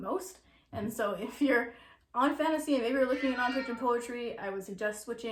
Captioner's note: meowing